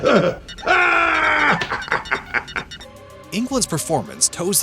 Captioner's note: laughing